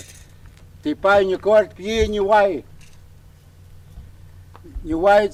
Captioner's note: speaking in native language